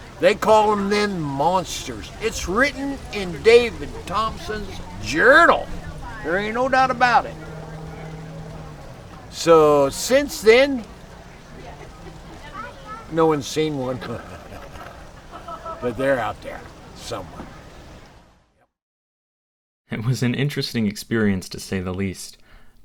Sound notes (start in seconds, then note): 13.8 laughter